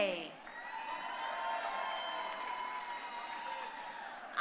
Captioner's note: crowd cheering